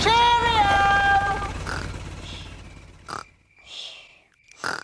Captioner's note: baby alexander snoring